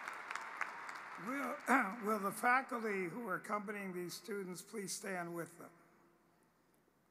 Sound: cheering and applause

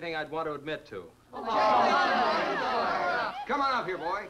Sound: party goers chattering

